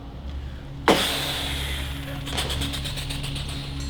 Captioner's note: mimics explosion sound